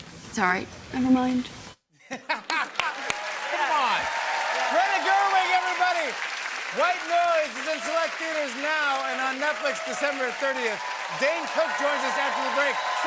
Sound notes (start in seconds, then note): 2.1 cheering and applause; 2.1 laughs, claps